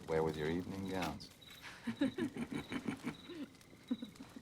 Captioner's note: both laugh